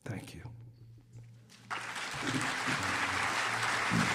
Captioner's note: applause